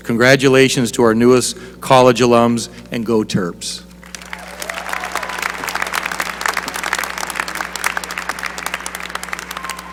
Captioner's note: applause